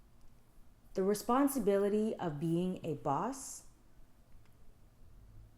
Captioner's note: none